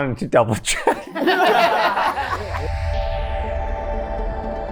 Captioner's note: everyone laughing